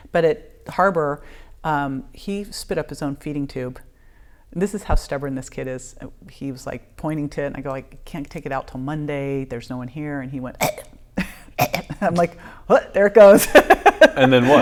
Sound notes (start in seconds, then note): 10.6 coughing; 13.3 laughing